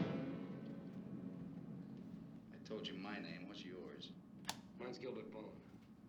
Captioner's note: television sound